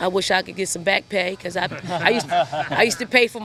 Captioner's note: interviewers laugh